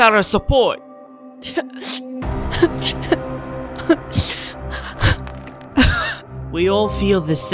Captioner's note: cries